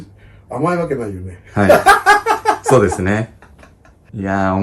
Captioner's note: laughs